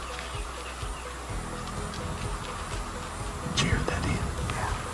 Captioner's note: whispering